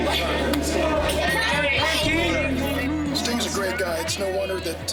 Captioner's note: fans chattering